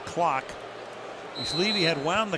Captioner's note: booing